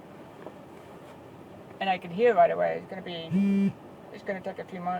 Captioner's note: phone buzz